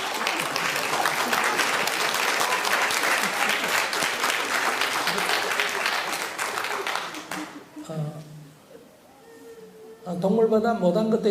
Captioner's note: audience Laughter and Applause